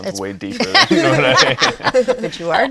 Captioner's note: laughs